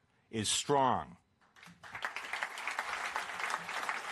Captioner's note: applause